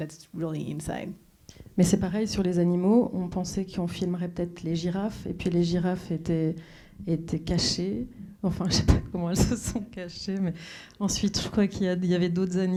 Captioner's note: speaking French